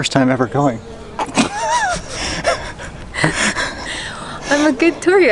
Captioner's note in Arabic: ضحك مكتوم